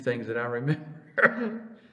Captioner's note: laughs